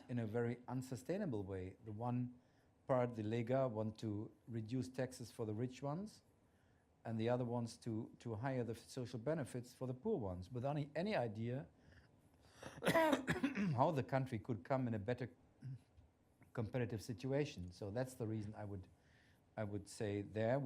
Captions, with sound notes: in a very unsustainable way. The one part, [NON-ENGLISH SPEECH] want to reduce taxes for the rich ones, and the other wants to higher the social benefits for the poor ones, without any idea how the country could come in a better comparative situation. So that's the reason I would say there